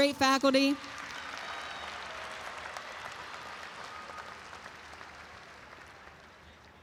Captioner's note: audience applauds and cheers